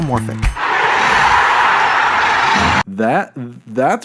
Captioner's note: crowd cheering